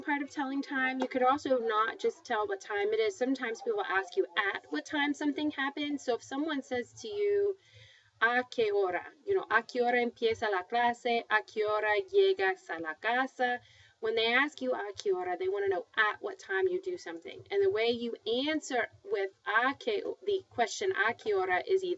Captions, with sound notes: OK, this is the second part of telling time. You could also not just tell the time it is. Sometimes we will ask you at what time something happens. So if someone says to you, [speaking spanish]. When they ask you [speaking spanish], they want to know at what time you do something.